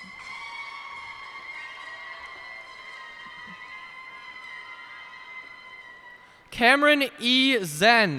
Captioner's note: cheers and applause